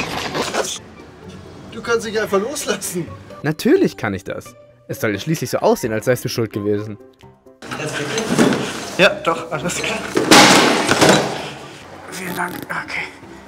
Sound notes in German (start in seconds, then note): 9.6 Scheppern; 11.5 angestrengt